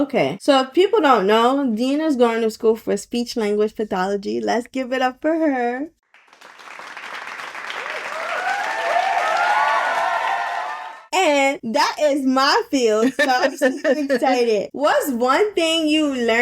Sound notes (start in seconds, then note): 7.6 cheering Sound Effect; 13.0 laughing